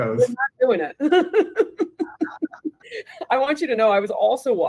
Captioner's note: both laughing